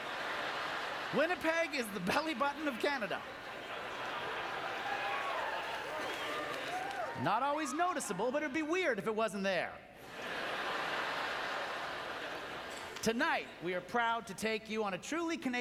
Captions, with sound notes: (Laughing) Winnipeg is the belly button of Canada. (Laughing, cheering) Not always noticeable, but it would be weird if it wasn't there. (Audience laughter) Tonight we are proud to take you on a truly